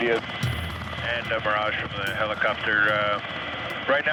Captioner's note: man On Radio